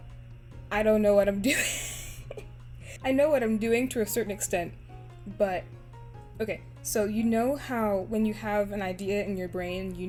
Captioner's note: laughs